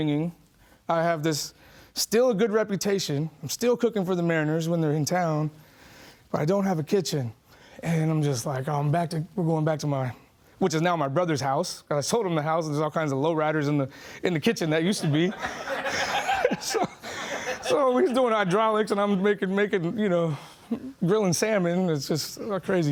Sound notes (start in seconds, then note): 15.0 laughing